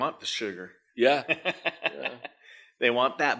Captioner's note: laughing